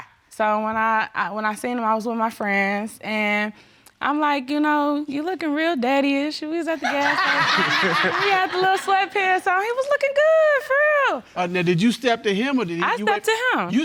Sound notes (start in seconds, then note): 6.9 all laughing